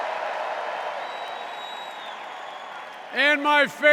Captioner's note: cheers and applause